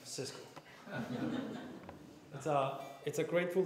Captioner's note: laughter